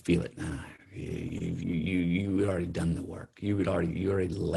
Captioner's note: sighing